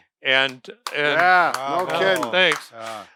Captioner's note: clapping